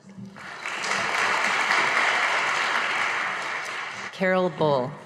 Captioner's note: audience applauding